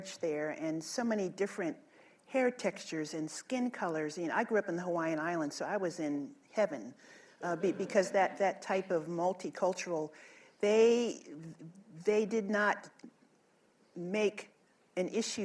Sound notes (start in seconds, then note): 7.5 laughter